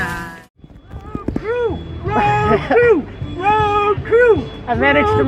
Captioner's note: laughter